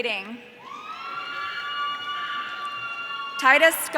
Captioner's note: audience cheering